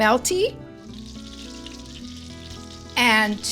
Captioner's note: butter sizzling